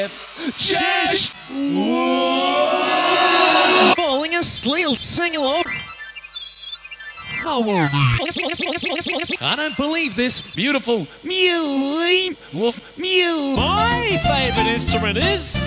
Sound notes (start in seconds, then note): 1.2 slowed down, increasing in reverb; 8.0 "falling aslee-" stutter